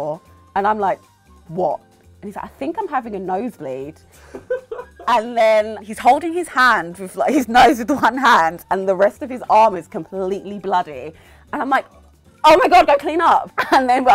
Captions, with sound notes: And I'm like, "What?" And he's like, "I think I'm having a nosebleed." (producer laughs) And then he's holding his nose with one hand and the rest of his arm is completely bloody. And I'm like, "Oh my God, go cleanup." (laughs)